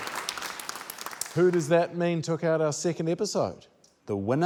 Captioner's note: applause